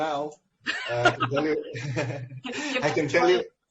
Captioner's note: both laughs